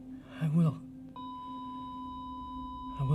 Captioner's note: heart monitor flatlines